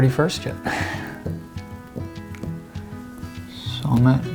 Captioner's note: laughs